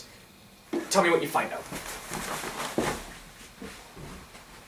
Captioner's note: Sampson loudly rushes out of room